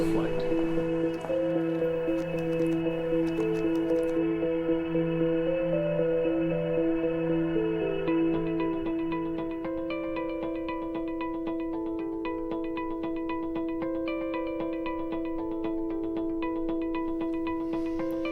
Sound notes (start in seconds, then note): 0.1 eerie music plays; 4.0 keyboard tapping